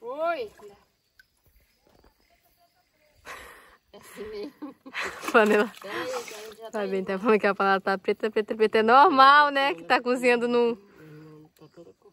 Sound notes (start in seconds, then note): 4.0 laughs